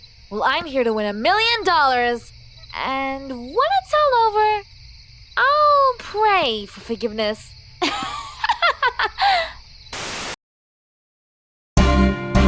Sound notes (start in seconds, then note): 7.8 laughs